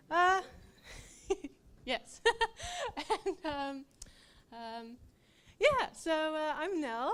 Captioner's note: laughs